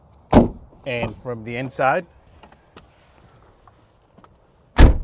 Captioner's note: door slams